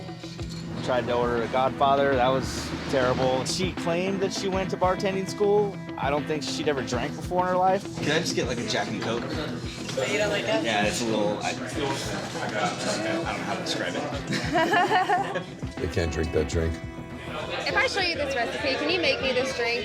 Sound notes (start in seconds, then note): 14.1 nervous laughter